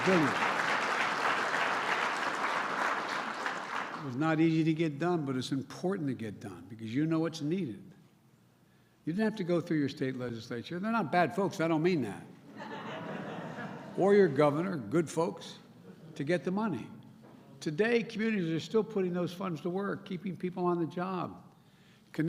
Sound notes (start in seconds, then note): 0.0 applause; 12.5 laughter